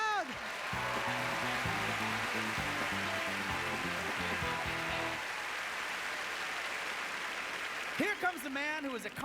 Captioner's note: applause